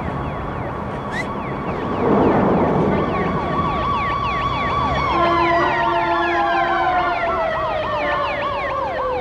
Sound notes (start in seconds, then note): 0.0 sirens wailing; 1.0 whistling